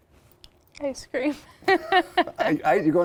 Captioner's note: laughs